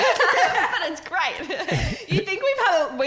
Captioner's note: laughing